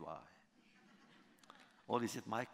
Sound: laughter

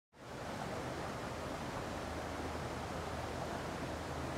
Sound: water rushing

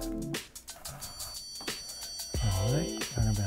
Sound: beep sound

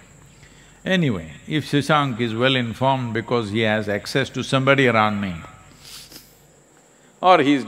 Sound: laughs

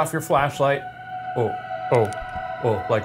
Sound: ghostly wailing

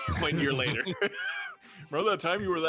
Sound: nervous laughter

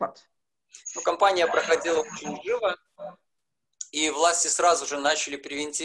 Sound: speaking foreign language

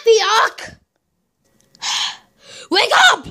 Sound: breathing out

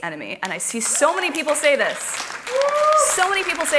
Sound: applause

